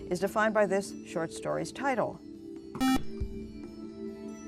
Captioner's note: buzzer